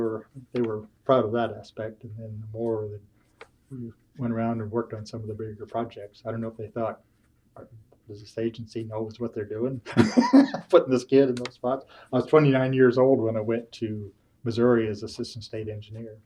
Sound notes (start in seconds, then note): 9.9 laughs